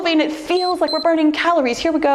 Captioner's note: timer beeps